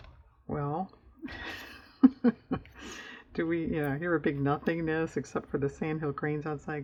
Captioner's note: laughs